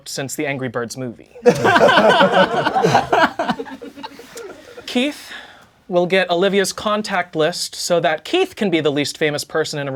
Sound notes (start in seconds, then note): 1.4 crowd laughing